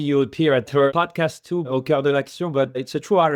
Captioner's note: speaks in French